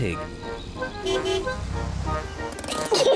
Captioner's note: honks horn; peppa and george giggle